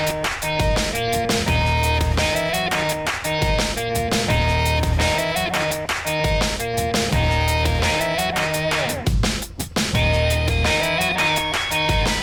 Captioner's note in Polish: Aplauz